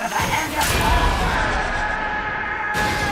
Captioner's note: yelling